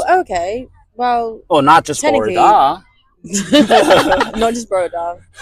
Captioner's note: in Welsh